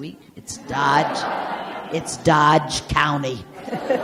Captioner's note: audience laughs